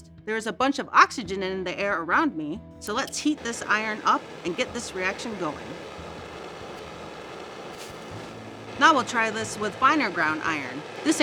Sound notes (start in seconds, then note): 3.9 torch hissing